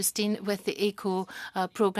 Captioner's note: speaking French